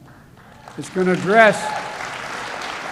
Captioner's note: applause